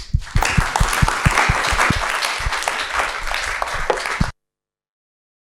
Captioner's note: audience applauds